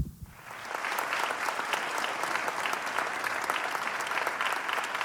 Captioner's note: audience applauding